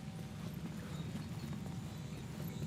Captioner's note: wind whistling